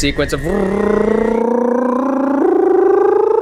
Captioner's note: trilling noise